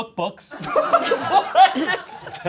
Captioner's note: all laughing